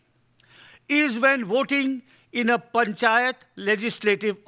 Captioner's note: speaking in foreign language